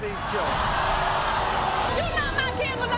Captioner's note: audience screams